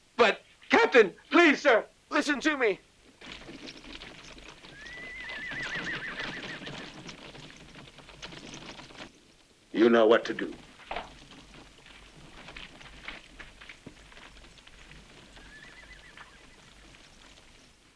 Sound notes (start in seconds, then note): 5.0 horse whinnies; 15.1 horse whinnies